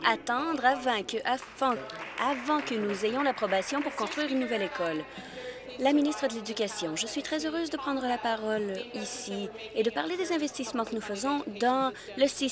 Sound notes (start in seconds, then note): 4.5 applause